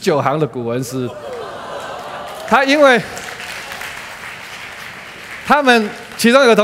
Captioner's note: applause